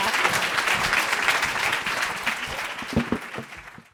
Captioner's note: applause